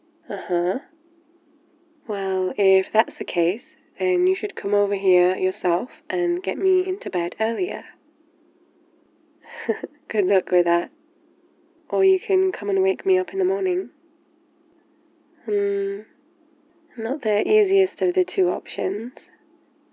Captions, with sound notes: uhuh... well, if that's the case then you should come over here yourself and get me into bed earlier *laughs* good luck with that or you can come and wake me up in the morning hmm, not the easiest of the two options